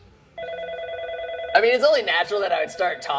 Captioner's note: phone ringing